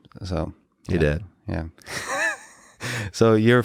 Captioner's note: chuckling